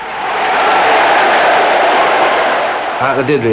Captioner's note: crowd roaring